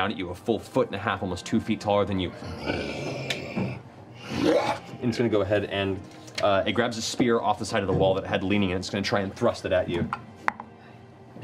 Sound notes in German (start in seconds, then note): 2.3 Knurren